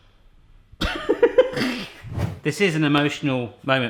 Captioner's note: laughs